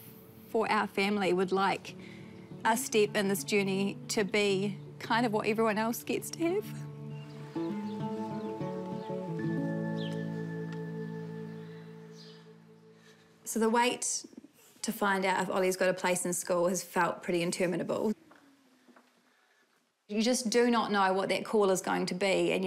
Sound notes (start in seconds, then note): 7.0 tearfully; 9.1 birds chirp